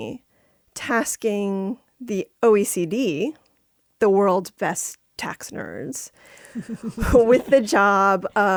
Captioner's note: laughter